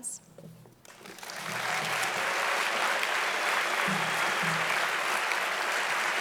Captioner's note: audience applauding loudly